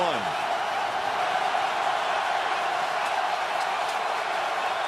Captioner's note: cheering